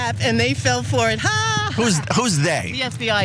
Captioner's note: laugh